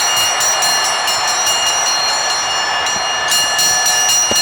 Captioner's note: bell rings